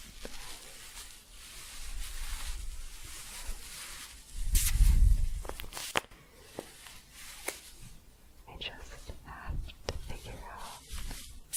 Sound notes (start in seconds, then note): 0.0 staticky shuffling and crinkling